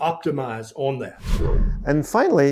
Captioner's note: screen whooshing